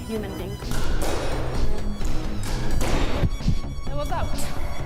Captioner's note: ball bouncing against wall